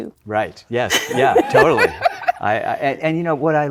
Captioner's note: laughing